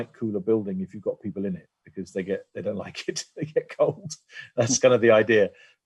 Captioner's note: laugh